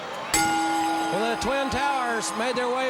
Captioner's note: bell ringing